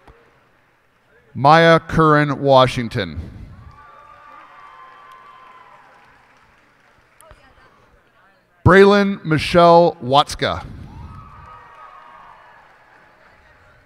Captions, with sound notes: Miyah Korynn Washington. [cheers and applause] Braelyn Michelle Watzka. [cheers and applause]